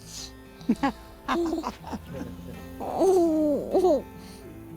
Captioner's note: laughter